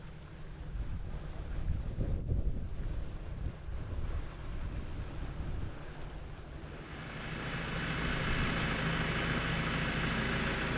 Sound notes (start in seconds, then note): 0.4 a bird chirps; 6.7 fade into sound of tractor engine